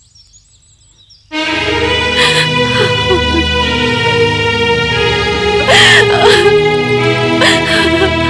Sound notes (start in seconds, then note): 1.7 sobbing